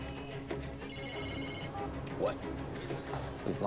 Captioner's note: phone rings